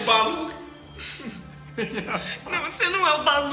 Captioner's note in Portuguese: risos